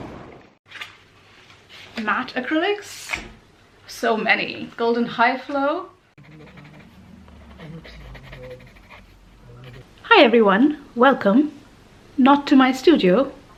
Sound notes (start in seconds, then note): 1.3 ocean sounds; 6.2 pencil sounds